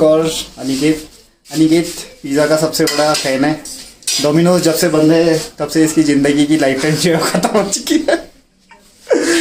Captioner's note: laughs